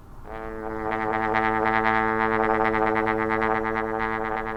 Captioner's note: horn resonating